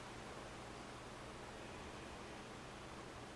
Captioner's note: breathing sounds